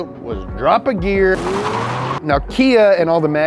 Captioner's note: engine revs